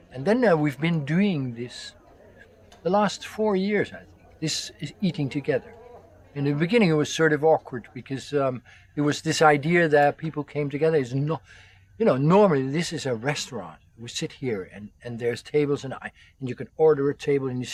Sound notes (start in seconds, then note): none